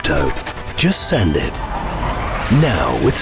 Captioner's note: machine whirring